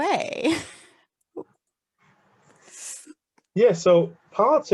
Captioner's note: laughing